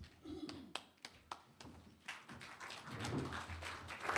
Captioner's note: applause